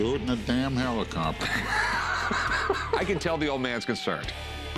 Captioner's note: laughs